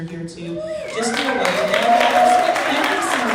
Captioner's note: crowd clapping